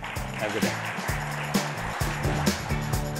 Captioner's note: applause